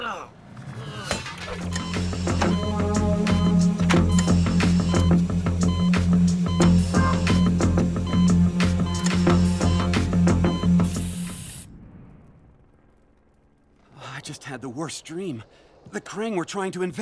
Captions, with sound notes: [beeping, music playing] [beeping, music playing] I just had the worst dream. The Kraang were trying to invade.